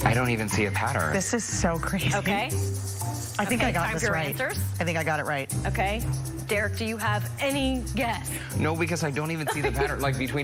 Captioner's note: laughter